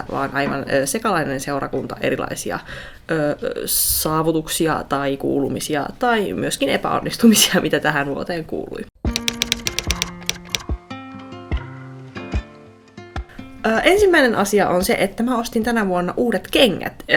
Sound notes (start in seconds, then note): 9.0 typewriter tapping and calm music